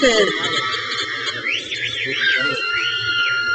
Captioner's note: crowd cheers